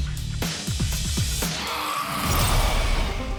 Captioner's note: growling